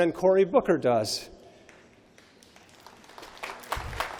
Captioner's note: applause